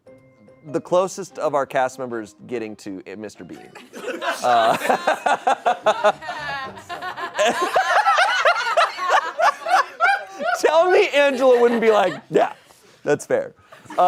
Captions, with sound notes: the closest of our cast members getting to "Mr. Bean." (audience laughing) Tell me Angela wouldn't be like, "Yeah, that's fair."